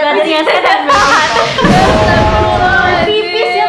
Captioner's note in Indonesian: thunder